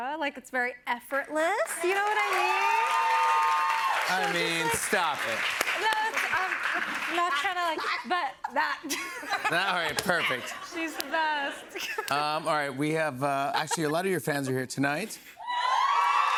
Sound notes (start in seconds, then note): 1.6 cheers and applause